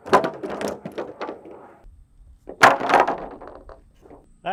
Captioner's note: wood clanking